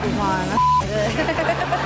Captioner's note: beep sound